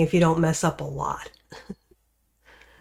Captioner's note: laughs